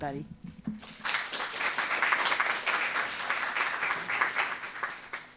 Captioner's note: applause